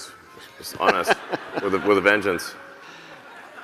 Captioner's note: laughing